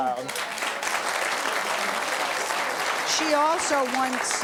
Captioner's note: audience applauds